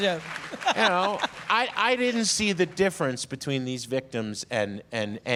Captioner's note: applause